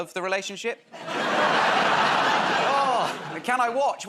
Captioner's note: laughter